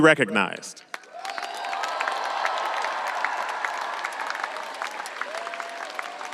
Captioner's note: audience applauding and cheering